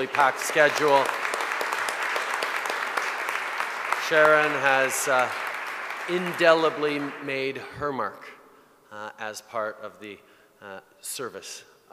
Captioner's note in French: Applaudissements